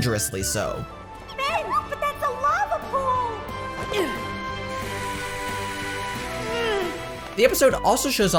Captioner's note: winces